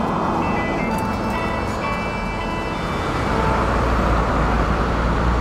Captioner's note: city traffic